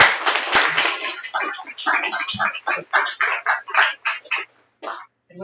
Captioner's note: applause